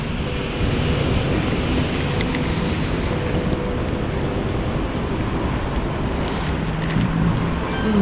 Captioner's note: wind Blowing